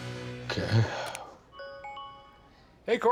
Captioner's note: laptop chimes